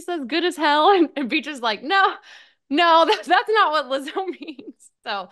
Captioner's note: laughs